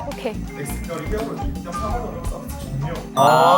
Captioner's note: A mysterious voice can be heard★